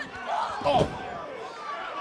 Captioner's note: crowd cheering